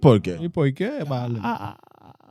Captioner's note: speaking In Foreign Language